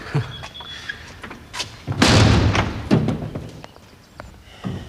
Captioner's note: door slamming